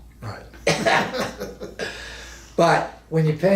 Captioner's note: both men laugh